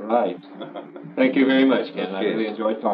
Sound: laughs

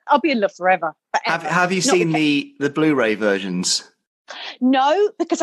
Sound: male Voice

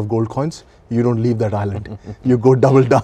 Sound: laughing

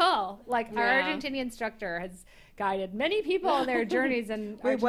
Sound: chuckles

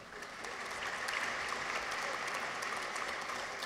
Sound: audience applauds

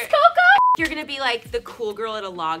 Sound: beeping

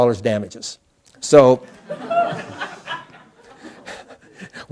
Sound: laughter

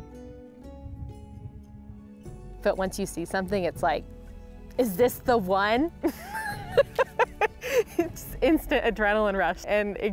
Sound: laughs

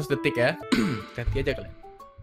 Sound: cough

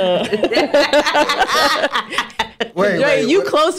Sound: laughing

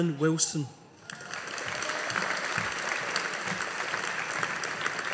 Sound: audience applauding

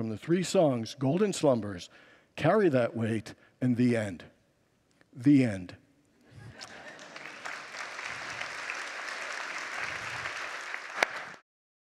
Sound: congregants laugh and applaud

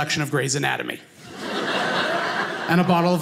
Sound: audience laughing

